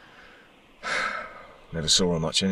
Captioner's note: Jez sighing